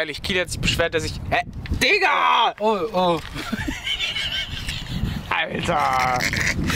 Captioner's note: laughter